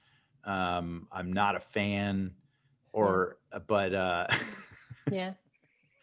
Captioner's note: laughs